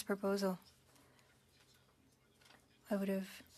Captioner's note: speaking French